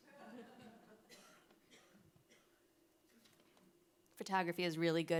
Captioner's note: audience laughing